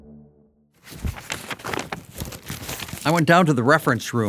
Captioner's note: pages rustling